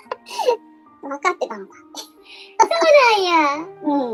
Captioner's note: laughs; laughs